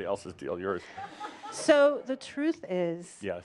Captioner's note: a couple of giggles